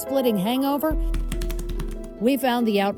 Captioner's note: computer keys tapping